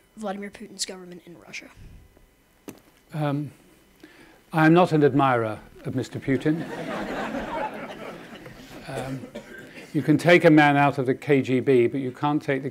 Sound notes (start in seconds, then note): 6.3 audience laughing